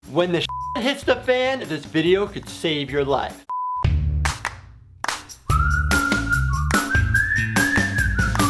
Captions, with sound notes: - When the (beep) hits the fan, this video could save your life. (upbeat music)